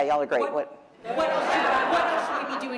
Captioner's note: laughter